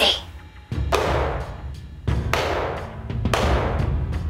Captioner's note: hands clapping